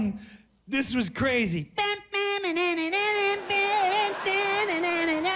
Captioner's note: imitates jazzy big band music